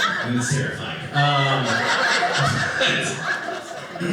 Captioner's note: audience laughing